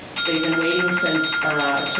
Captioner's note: bell ringing